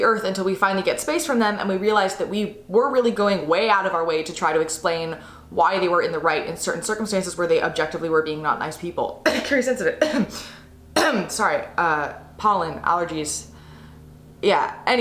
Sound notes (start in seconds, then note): 9.8 coughs